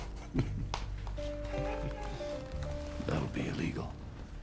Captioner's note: chuckling